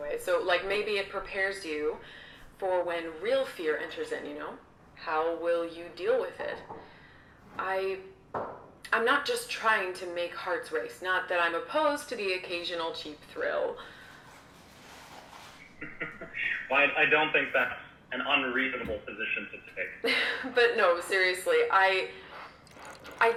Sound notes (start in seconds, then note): 15.7 host chuckles